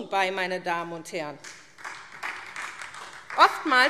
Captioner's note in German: Beifall SPD